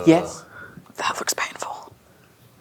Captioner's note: whispers